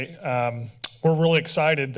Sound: tongue clicking

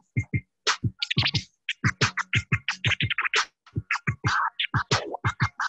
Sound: record scratching

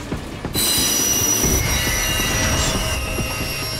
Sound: screeching sound

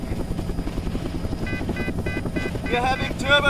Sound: beeping

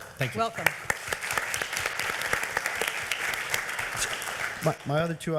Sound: members applauding

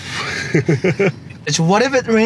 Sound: laughs

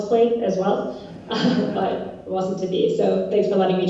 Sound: laugh

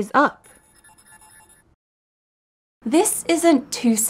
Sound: soft chiming

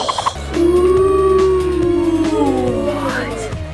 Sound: children woo

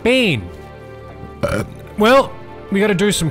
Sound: burp

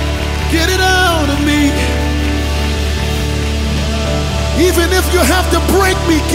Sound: audience applause; audience applause

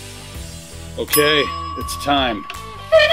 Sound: alarm rings

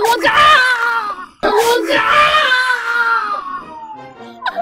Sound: shrieking!

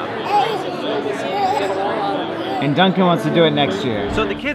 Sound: baby babbles

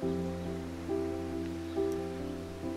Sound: none

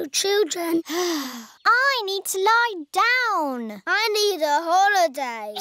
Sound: sighs

